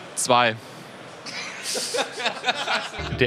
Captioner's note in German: Gelächter